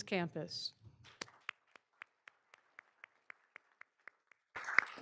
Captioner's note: all applauding